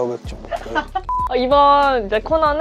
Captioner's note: beep